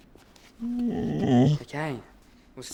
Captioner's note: groans